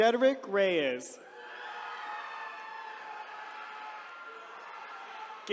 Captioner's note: attendees cheering